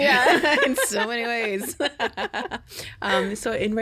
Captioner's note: laughing